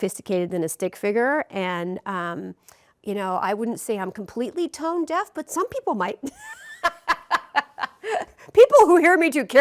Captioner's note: rires